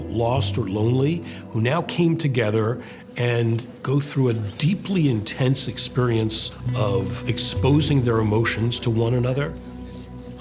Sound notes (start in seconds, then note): none